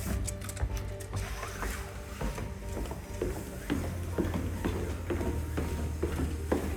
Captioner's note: footsteps descend the stairs